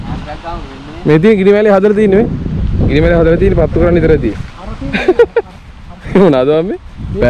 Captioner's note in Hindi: हँसते हुए